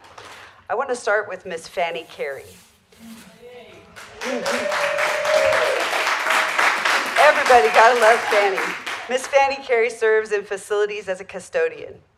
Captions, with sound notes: I wanna start with Ms. Fanny Carey. (applause) Everybody gotta love Fanny. Ms. Fanny Carey serves in Facilities as a custodian.